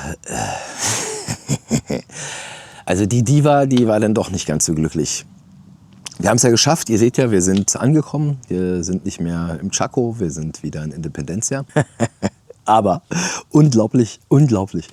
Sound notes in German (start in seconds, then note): 0.8 gelächter